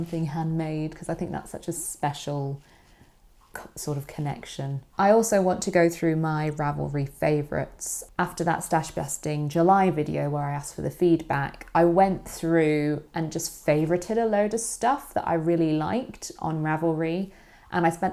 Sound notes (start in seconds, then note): none